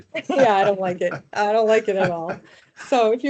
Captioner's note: laughing